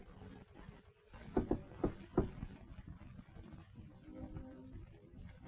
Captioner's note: knocking on door